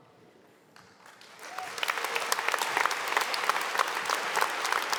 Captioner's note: audience applauding